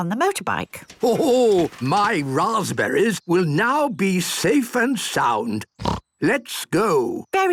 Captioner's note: snort